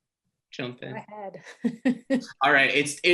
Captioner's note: laughs